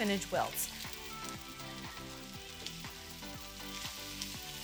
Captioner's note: spinach sizzling; upbeat instrumental music